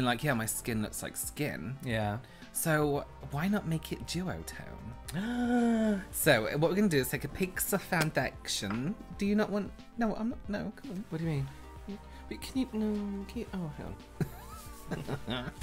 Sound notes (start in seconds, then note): 5.1 gasps Of Delight